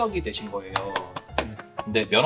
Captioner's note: clap clap clap